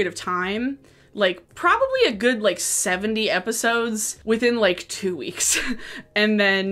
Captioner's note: laughs